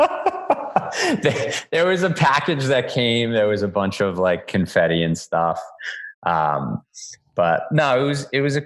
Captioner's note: laughs